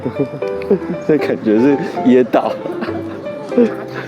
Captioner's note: laughs